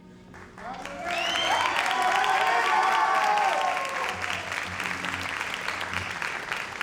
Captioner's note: audience cheers and applauds